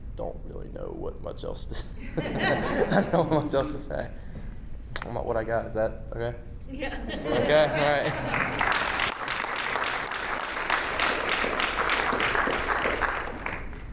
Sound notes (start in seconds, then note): 2.0 audience laughing; 10.4 audience applauding